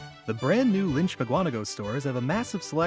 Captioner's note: voiceover